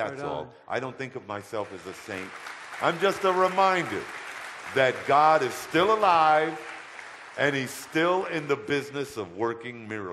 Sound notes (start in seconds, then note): 3.1 audience applause